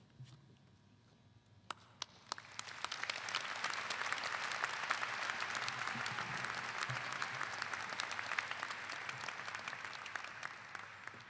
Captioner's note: clapping